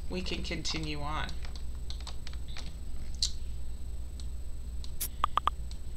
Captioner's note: keyboard clicking